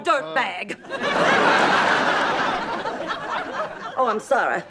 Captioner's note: audience laughing